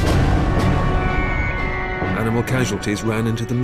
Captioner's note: bombs whistle